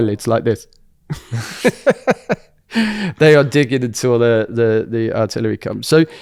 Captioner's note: laughs